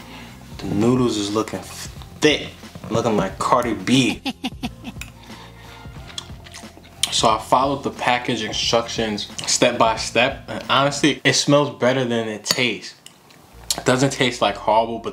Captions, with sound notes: The noodles is looking thick, looking at my Cardi B (laughs) (chewing) So I followed the package instructions step-by-step and honestly it smells better than it tastes. It doesn't taste like horrible,